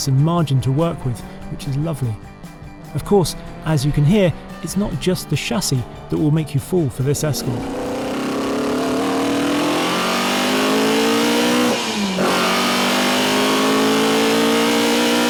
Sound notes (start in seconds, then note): 8.9 car engine roaring